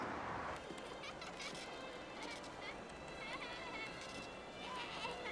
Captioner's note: child laughing